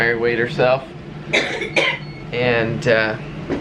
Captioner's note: coughing